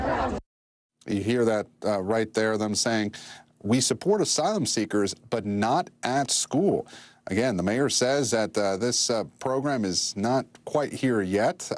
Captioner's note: crowd chanting